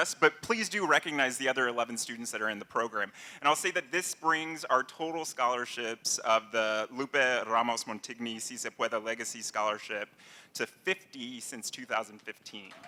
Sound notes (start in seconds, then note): 7.8 non-english language; 12.6 applause